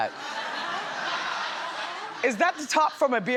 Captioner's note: audience laughs